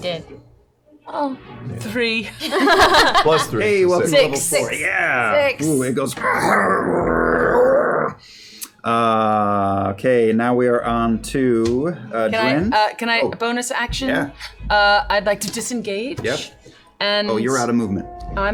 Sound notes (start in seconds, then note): 6.2 growls